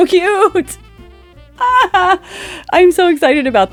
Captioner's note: more happy noises